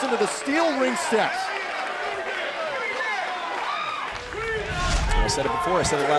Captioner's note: crowd cheering